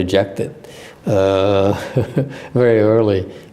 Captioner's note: laughter